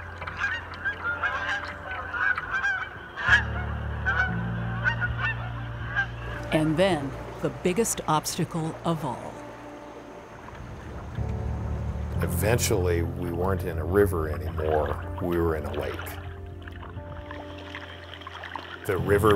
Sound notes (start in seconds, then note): 0.0 water trickling; 2.5 geese honking